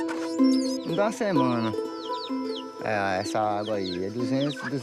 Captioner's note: Portuguese spoken audio